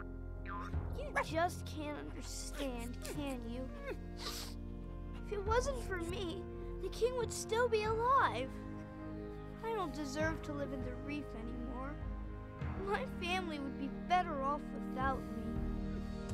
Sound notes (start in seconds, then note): 0.0 instrumental music; 3.7 sniffs